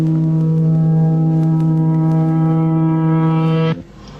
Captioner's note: reversed twang swells